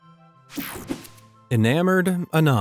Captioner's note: logo whooshing